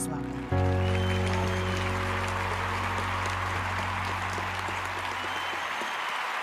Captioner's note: audience applauding